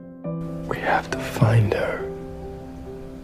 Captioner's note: voiceover